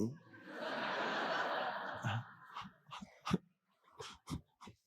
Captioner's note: audience laughing